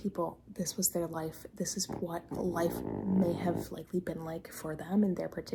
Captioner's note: puppy snort of the century